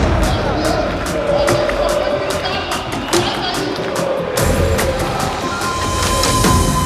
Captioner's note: crowd chanting